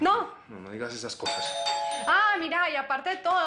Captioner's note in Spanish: Timbre de la puerta